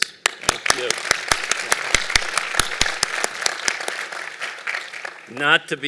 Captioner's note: applause